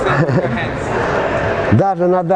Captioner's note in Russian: Смеётся